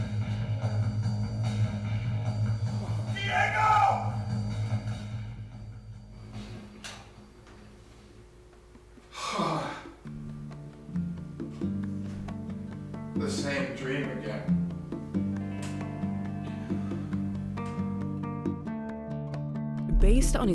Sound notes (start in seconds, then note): 0.0 dramatic music; 9.1 sighs heavily; 12.4 light instrumental music